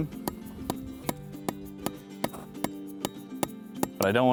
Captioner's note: hammering